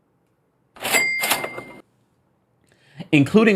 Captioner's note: cash register bell jingling